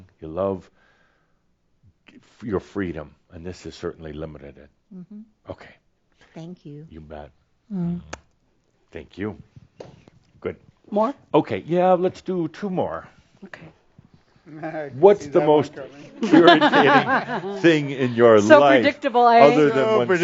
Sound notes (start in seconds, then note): 16.2 laughs